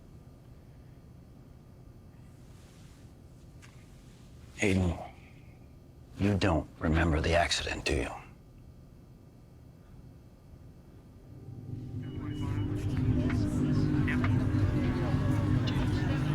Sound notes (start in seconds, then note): 11.2 ominous music; 12.1 group chattering; 12.2 police radio chattering; 13.6 siren wailing